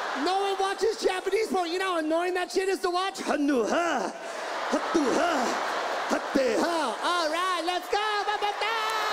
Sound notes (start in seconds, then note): 3.2 imitating Japanese male and female voices